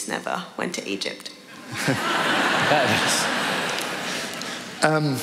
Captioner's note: laughter